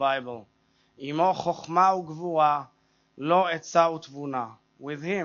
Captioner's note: speaks Hebrew